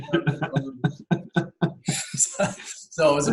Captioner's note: laughter